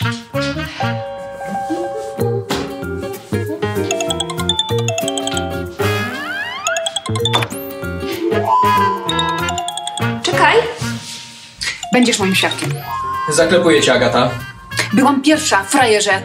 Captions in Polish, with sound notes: [sygnał przychodzącego połączenia] [sygnał drugiego połączenia] Będziesz moim świadkiem! Zaklepuję cię, Agata! Byłam pierwsza, frajerze!